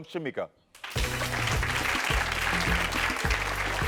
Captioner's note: audience claps